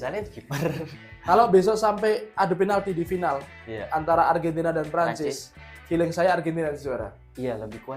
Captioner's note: laughs